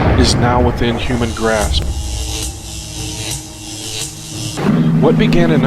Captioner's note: atom buzzes